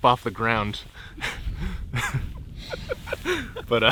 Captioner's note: all laughing quietly